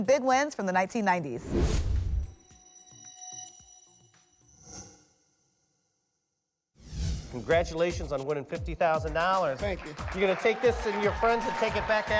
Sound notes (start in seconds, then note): 1.4 whoosh; 1.4 futuristic sound; 6.8 whoosh